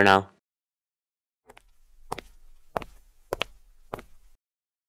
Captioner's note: walking